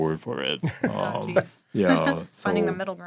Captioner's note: chuckling